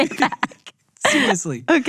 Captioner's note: laughing